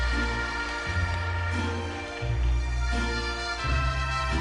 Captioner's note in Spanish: Aplausos